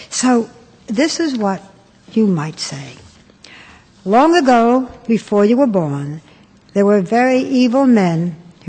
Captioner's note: none